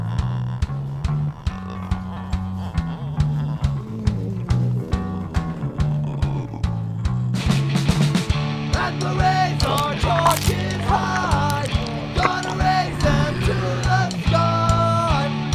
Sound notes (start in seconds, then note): 0.0 zombies groaning; 9.5 flesh crunching